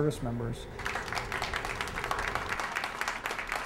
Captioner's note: applause